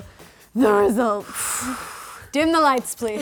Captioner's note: exhaling